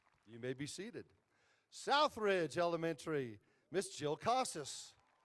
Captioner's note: applause